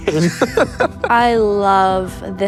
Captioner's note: laughs